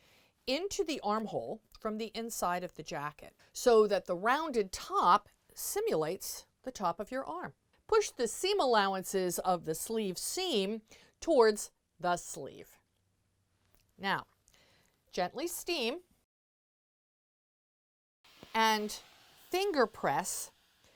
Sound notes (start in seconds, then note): 16.2 no Sound Present